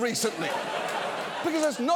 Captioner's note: studio audience laughs